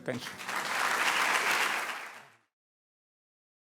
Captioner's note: applause